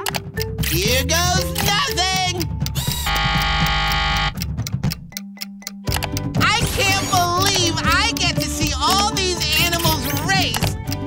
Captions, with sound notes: Here goes nothing! [buzzing] I can't believe I get to see all these animals race.